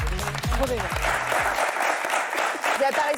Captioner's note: applause